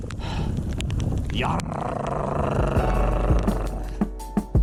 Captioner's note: growling